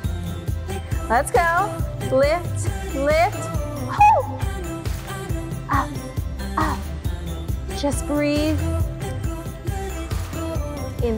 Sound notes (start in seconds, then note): 3.9 shouts; 9.7 exhales